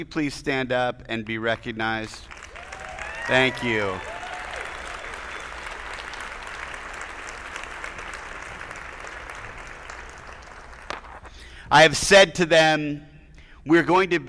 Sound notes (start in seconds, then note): 1.9 attendees applauding; 1.9 attendees cheering